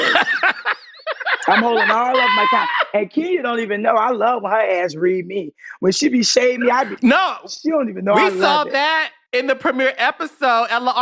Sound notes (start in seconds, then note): 0.0 laughs